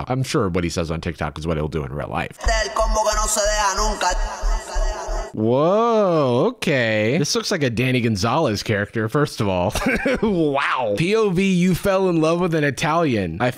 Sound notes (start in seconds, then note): 5.5 italian music; 9.8 laughs